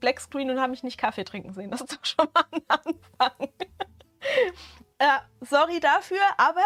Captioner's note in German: Gelächter